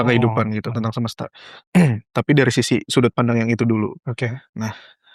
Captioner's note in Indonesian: berdehem